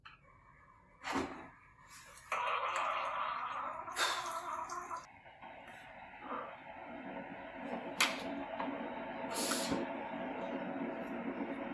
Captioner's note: coffee Machine Noises